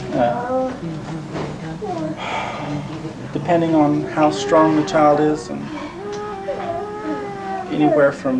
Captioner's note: sighs